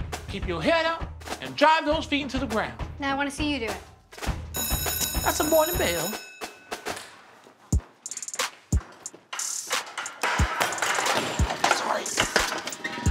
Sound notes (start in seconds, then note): 4.5 bell rings; 7.7 hip hop music; 7.9 metal chair hitting floor